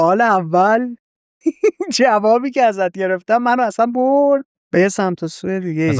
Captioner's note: laughs